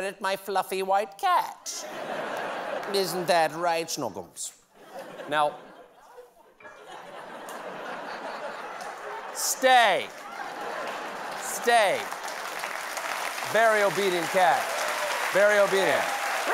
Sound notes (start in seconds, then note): 4.7 laughter; 9.8 applause